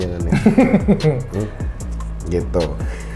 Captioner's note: laugh